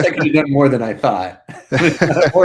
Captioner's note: both laughing